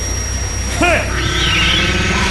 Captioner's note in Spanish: Dominic gruñe